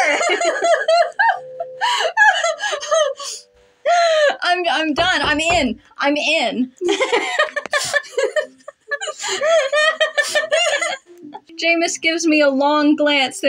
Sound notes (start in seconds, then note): 0.0 laugh; 1.6 quiet Laugh; 3.8 inhale; 4.9 Henyoki Knocks; 6.8 both Laugh